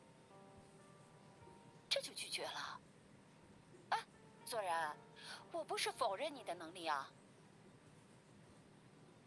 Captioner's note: sigh